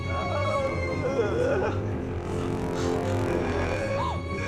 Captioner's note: Helmut moaning